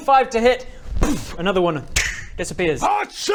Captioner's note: boof